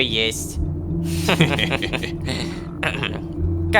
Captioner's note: laughing agents